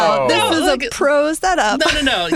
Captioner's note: laughing